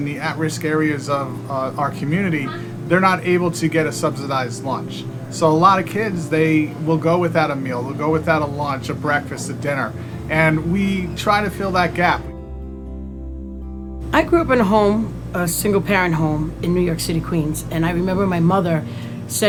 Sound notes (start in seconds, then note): 14.4 voice-over